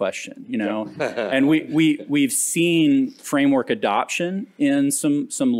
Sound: laughter

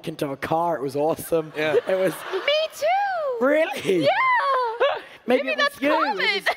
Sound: laughs

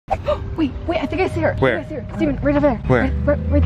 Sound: gasps

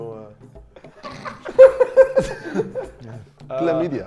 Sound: laughs

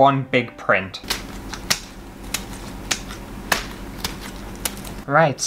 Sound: scissors Cutting Flowers

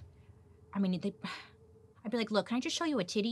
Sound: sighs

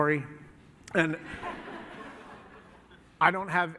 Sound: laughter

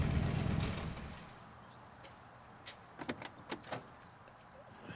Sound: engine shuts off

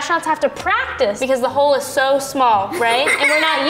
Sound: boy laughing

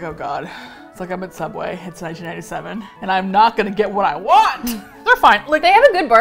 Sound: laughs

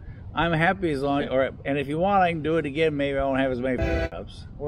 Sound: train horn

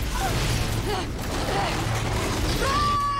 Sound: roaring

